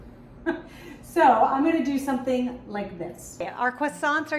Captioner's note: laughs